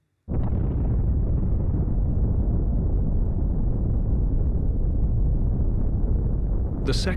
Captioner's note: explosion roaring